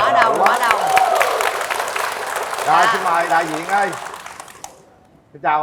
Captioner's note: applause